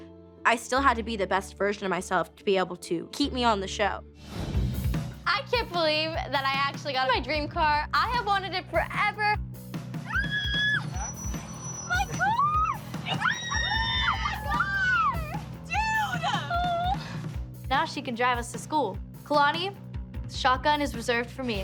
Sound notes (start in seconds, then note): 10.1 squealing; 12.9 girls squealing